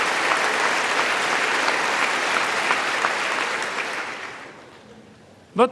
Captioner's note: applause